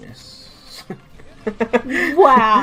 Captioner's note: laughing